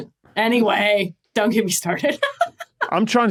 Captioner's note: laughs